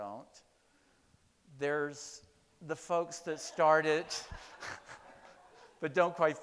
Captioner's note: chuckles